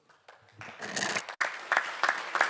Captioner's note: audience Applauding